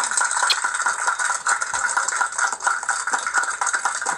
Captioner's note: clapping